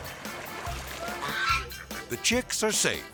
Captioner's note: swan squawking